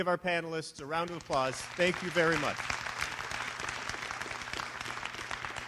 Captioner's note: applause